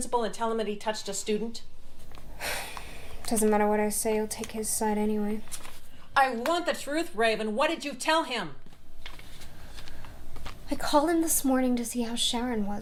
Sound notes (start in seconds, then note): 2.4 sighs